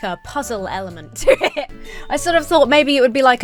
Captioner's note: laughs